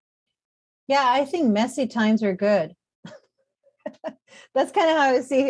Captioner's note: chuckles